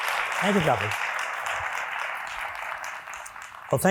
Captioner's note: applause